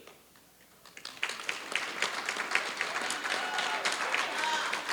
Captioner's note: applause